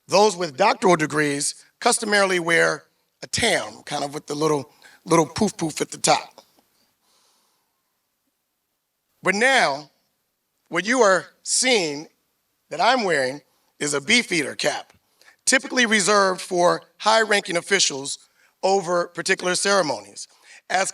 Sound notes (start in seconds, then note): none